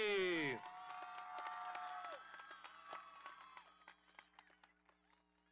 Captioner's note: audience applauding